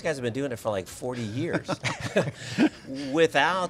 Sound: laughs

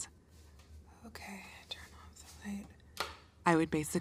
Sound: whispering

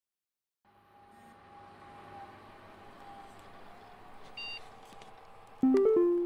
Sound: computer fans, old CPU startup sounds

